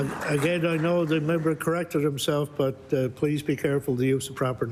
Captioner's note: applause